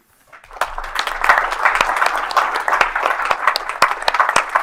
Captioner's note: everyone clapping